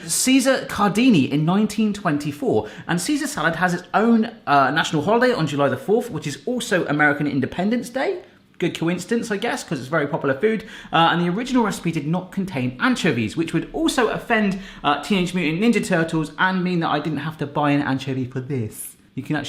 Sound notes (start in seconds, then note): none